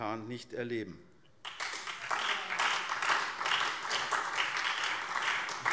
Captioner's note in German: Beifall SPD und Freie Demokraten